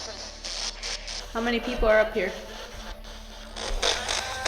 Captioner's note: spirit box voice; spirit box scanning; spirit box voice